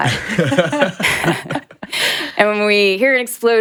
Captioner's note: laughing